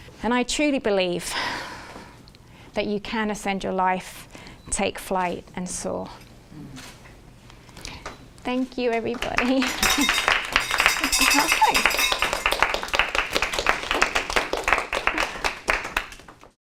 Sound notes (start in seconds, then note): 9.4 audience applauds